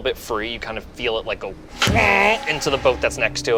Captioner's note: boat creaks